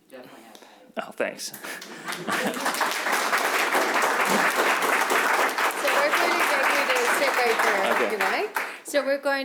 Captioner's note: applause